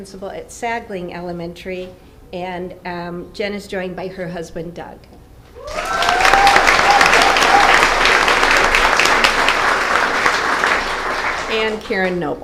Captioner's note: applause